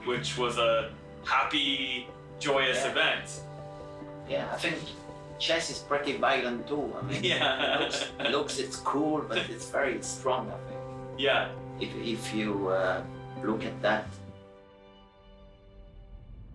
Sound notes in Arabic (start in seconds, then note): 7.0 يضحك